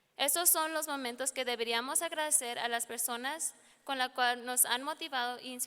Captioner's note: speaking in foreign language